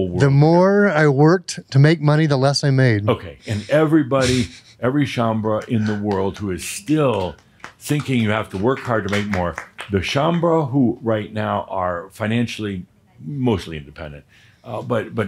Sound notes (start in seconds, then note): 4.5 a few claps